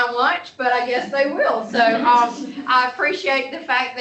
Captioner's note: laughter